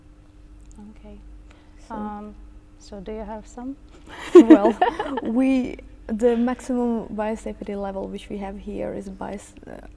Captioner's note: chuckles